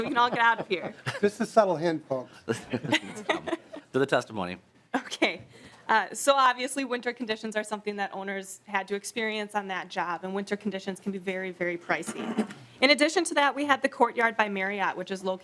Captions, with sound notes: TO GET CAUGHT IN THIS. >> [LAUGHTER]. >> I'LL MAKE IT QUICK. >> SUBTLE HINT FOLKS. >> TO THE TESTIMONY. >> OKAY. SO OBVIOUSLY WINTER CONDITIONS ARE SOMETHING THAT OWNERS HAD TO EXPERIENCE ON THAT JOB. AND WINTER CONDITIONS CAN BE VERY VERY